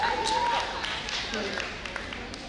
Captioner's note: audience applauding